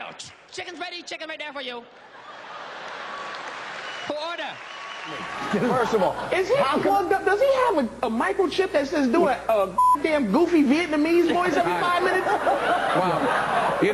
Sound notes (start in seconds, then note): 2.0 crowd laughing and applauding; 9.7 beep